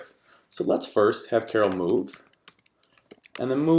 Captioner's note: keyboard typing